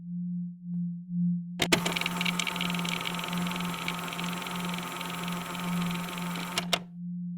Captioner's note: tape recorder static and music begins